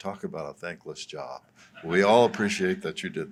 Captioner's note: laughter